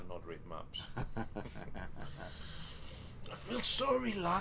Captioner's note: chuckling